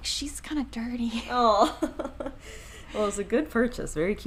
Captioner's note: chuckles